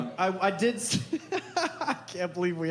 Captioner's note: laughs